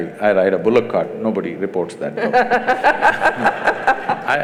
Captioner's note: laughter